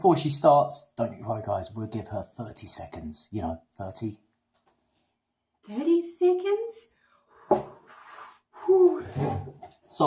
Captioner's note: hooo